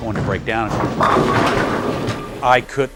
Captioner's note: pins knocking